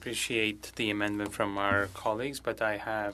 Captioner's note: speaking French